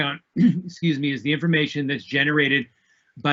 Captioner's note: coughs